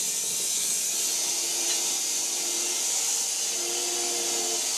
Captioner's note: saw whirring